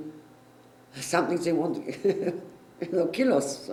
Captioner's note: laughter